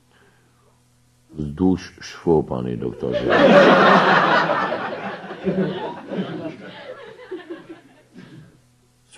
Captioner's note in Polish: śmiech